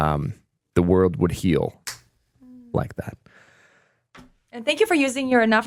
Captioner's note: snaps